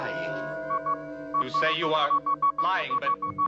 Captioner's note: beeping noise